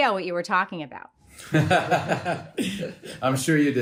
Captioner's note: both laugh